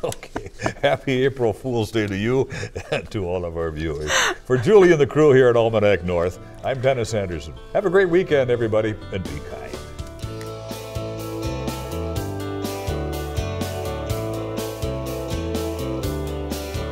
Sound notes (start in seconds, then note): 2.5 laughter